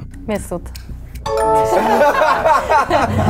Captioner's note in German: Klingeln